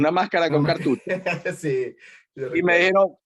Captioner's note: laugh